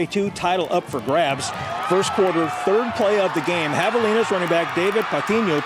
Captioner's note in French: cheering and applause